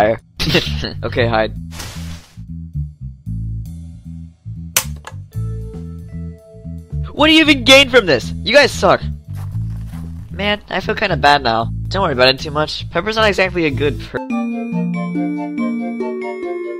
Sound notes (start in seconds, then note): 0.2 chuckles; 4.7 wire snaps; 14.1 intro music